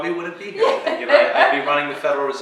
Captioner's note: laughs